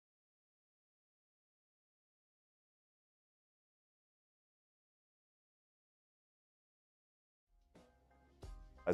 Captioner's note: silence